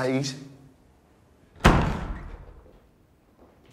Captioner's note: door banging